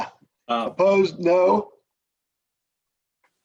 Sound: silence

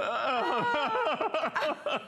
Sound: laughter

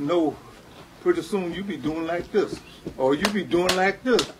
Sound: stomping foot; clapping hands

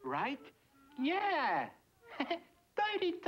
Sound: giggles

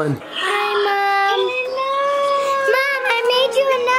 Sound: gasps

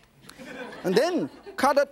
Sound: audience laughs

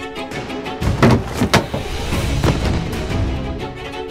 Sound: box opening

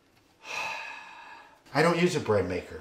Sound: sighing

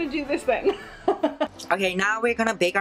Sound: laughs loudly

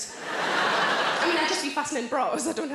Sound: audience laughing

